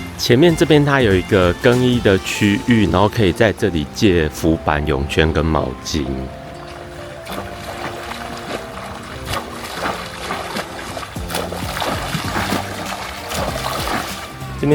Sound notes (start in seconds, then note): 7.3 swimming